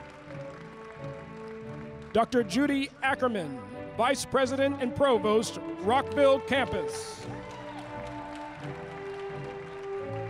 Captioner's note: applause